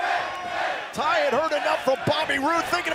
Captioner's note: crowd chatter